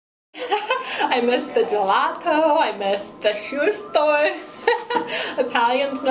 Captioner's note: laughing